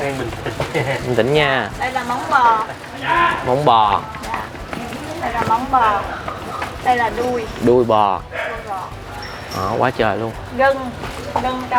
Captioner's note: hooves